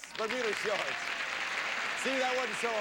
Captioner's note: audience applauding